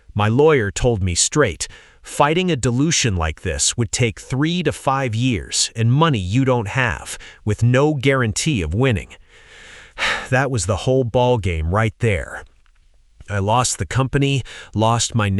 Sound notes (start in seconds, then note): 9.2 exhale